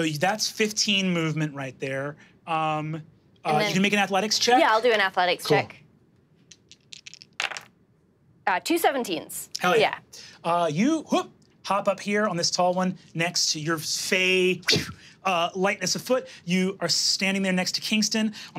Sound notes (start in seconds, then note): 6.5 dice clattering; 14.6 blows air